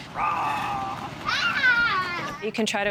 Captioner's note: child screaming; roaring